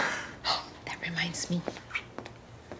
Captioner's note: gasps